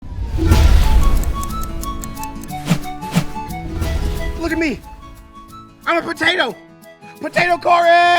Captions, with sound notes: (air whooshing) (whimsical music) - Look at me. I'm a potato. Potato Cory!